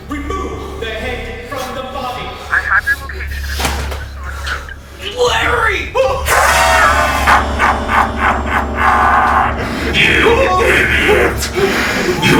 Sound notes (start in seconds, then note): 2.5 operator muffled; 7.2 Henrietta laughing